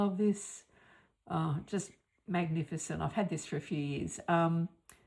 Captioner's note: gasp!